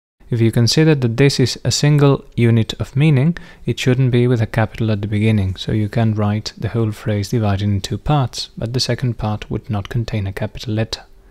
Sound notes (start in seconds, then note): none